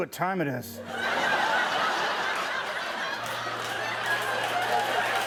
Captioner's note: laughter